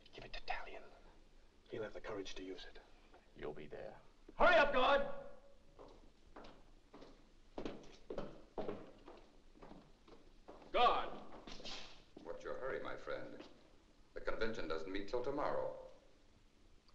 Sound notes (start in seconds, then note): 7.5 Saint Just's footsteps